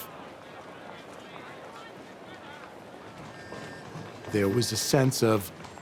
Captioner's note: people chattering